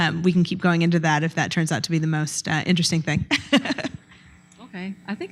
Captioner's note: laughs